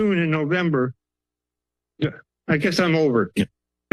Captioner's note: pause